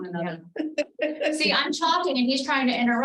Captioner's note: member laughing